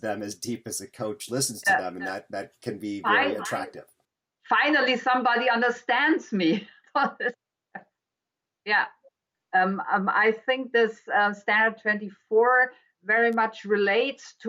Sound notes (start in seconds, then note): 7.8 laughs